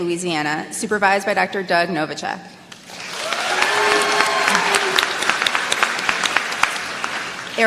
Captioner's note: applause